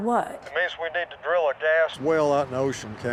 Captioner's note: on phone